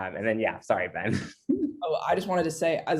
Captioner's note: laughs